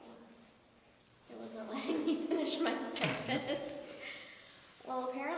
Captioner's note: laughs